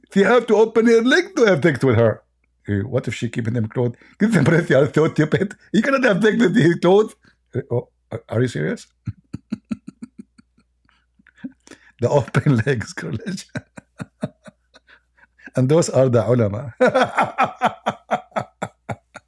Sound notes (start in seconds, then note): 8.9 Ketawa